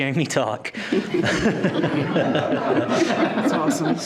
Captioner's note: participants laughing